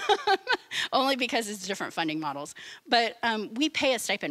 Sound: laughing

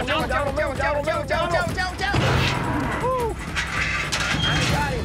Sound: bull grunts

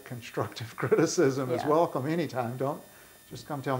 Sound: laughs

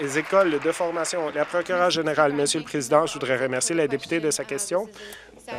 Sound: some Applause

